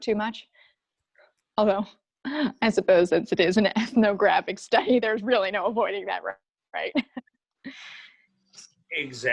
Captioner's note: chuckles